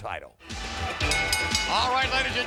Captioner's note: upbeat music; bell dinging